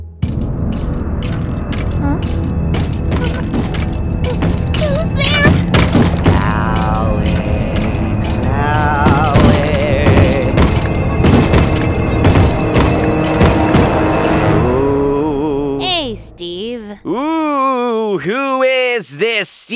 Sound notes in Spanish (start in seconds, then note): 4.2 golpean la puerta